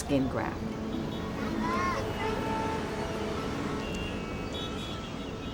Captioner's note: distant car horns honking